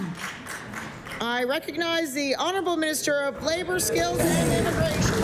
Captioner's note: applause